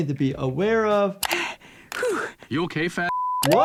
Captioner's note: Chris panting; beep